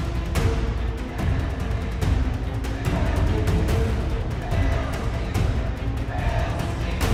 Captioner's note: crowd